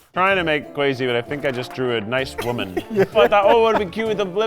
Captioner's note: laughs